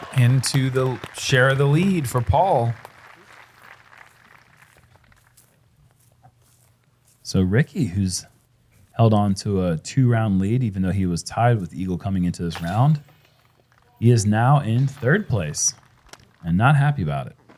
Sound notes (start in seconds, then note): 2.9 applause